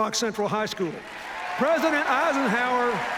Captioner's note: cheers, applause